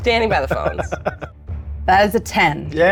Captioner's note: laughs